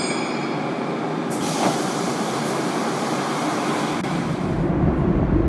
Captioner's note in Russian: открытие дверей